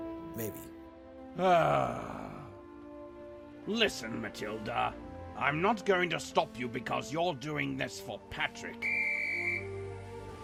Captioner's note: sighs